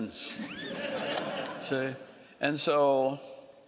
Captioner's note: laughing